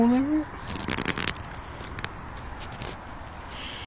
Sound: crunches

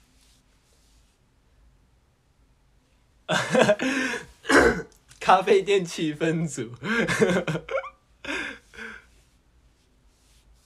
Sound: wHEEZE

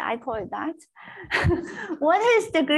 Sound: laughs

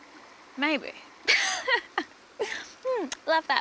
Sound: laughs

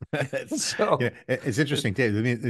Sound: both chuckling

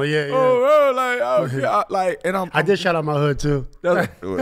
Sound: laughs

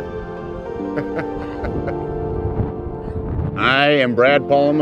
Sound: laughter

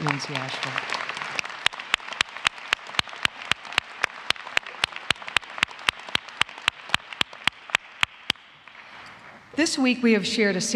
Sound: applause

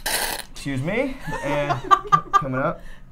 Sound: air spurting

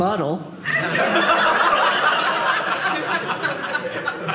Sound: audience laughing

